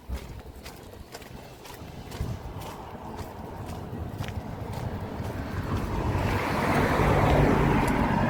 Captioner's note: cars passing